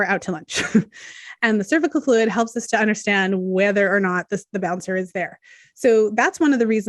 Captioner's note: chuckles